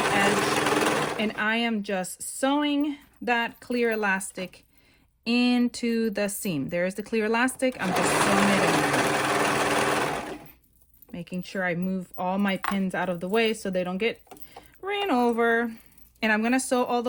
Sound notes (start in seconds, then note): 0.1 serger clatters; 7.7 serger clatters